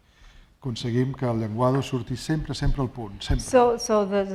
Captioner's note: speaking spanish